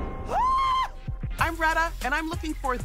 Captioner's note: Retta screams